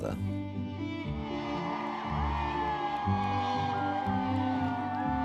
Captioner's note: crowds cheering and applauding; somber violin music